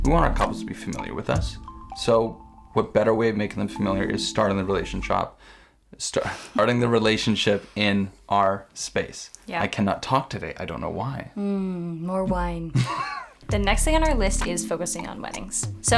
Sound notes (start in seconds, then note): 6.2 chuckles; 12.7 laughs